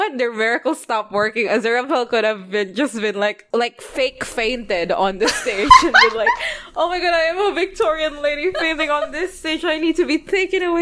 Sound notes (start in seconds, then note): 5.7 laughing